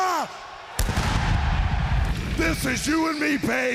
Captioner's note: crowd cheering